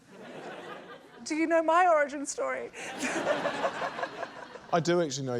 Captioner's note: chuckles